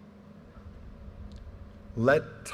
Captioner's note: none